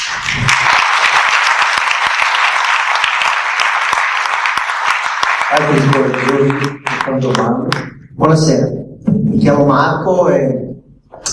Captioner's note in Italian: Applauso